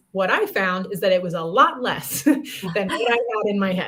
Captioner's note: laughter